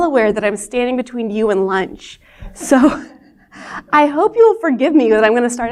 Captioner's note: laughter